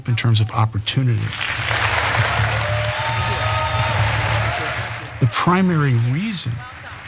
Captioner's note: applause